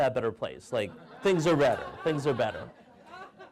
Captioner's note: audience laughing